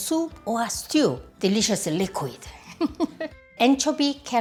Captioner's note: laughs